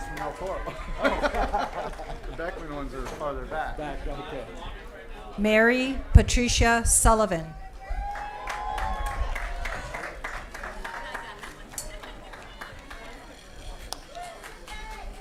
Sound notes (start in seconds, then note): 3.0 applause & Cheering; 15.0 applause